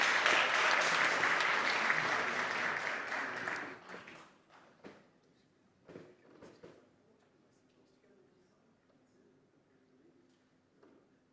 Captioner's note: applause